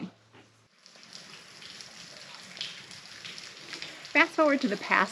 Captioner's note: water dripping